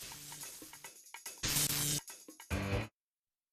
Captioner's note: electric buzzing